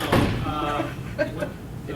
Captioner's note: chuckles